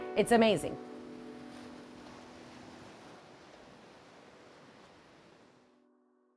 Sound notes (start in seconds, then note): 1.6 waves crashing